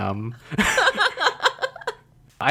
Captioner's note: laughs